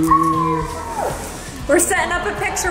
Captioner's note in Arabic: رجل يهمهم; يصرخ شخص